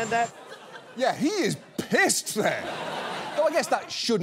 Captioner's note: audience laughs